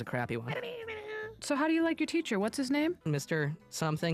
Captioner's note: babbles